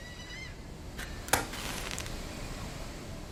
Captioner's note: strikes match